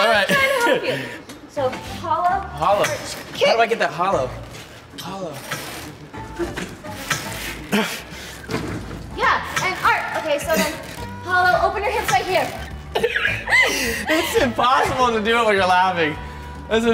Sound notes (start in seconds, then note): 0.2 laughs; 7.7 grunts; 12.9 both laugh